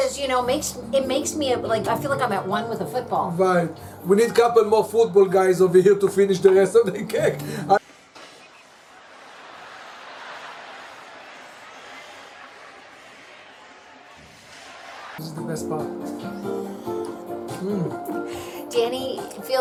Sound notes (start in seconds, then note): 7.8 sound effects of stadium crowd cheering outside; 17.6 giggling